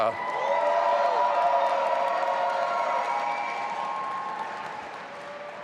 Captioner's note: audience applauding and cheering